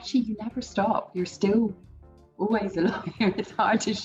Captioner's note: laughs